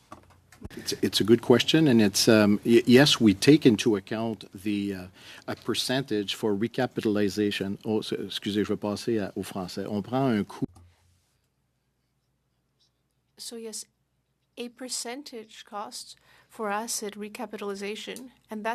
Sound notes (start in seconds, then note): 12.8 speaking French